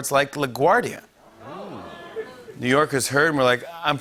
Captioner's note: audience ohs